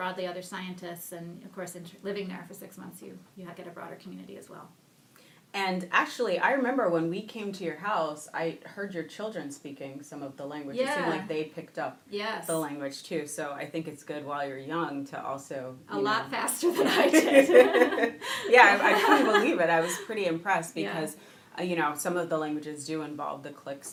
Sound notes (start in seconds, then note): 16.8 laughing